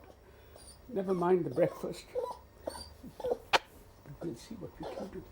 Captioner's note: dog whimpering